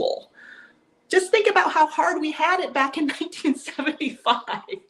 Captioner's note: laughs